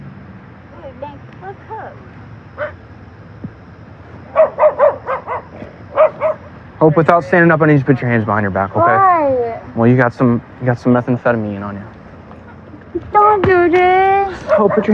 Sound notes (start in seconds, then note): 4.3 dog b bararkingng